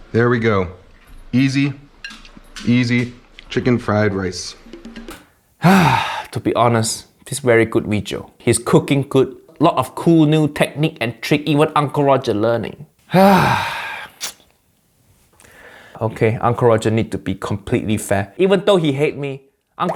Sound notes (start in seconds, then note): 5.6 sighs; 13.1 Uncle Roger sighs